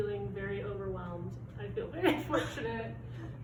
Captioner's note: laughs